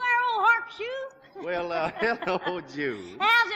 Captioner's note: laughing